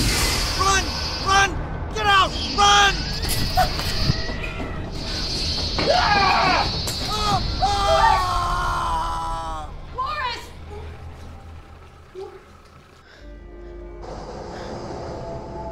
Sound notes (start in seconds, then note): 5.8 screams; 6.1 glass shatters; 7.0 screaming; 11.0 screaming stops; 13.0 breathing heavily